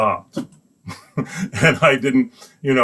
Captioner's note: laughs